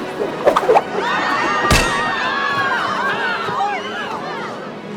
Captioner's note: people screaming